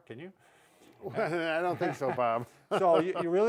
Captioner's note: both laughing